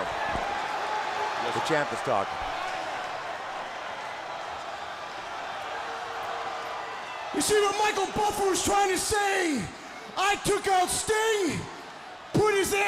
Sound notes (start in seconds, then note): 2.9 crowd chatter